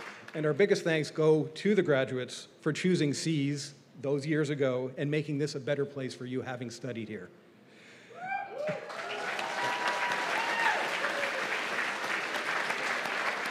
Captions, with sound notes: And our biggest thanks go to the graduates for choosing SEAS those years ago and making this a better place for you, having studied here. [CHEERS AND APPLAUSE]